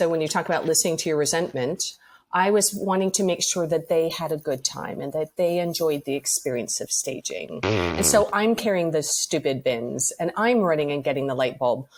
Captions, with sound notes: when you talk about listening to your resentment--I was wanting to make sure that they had a good time and that they enjoyed the experience of staging. [blows raspberry] And so I'm carrying the stupid bins and I'm running and getting the light bulb